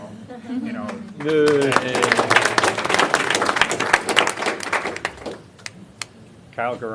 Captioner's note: applause